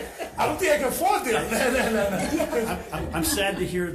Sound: assembly laughs

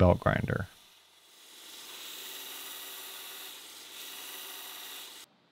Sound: machine whirring

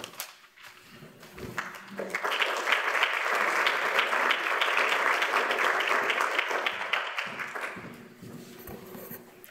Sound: applause

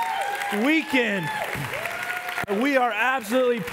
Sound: congregation cheer

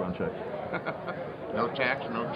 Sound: chuckling

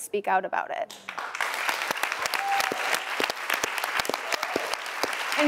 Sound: audience applause

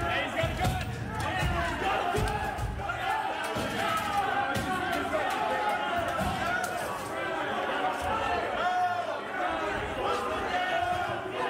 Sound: yelling

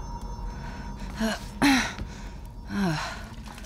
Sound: groaning

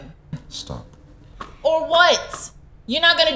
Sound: man beating notepad

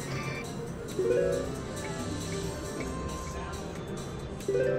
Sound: machine beeps

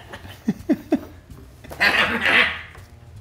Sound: laugh

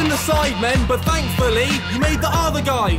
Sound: laughing

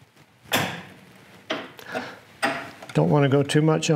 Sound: metal clanging

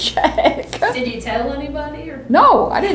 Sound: laughs

